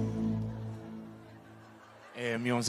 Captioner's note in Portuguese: risos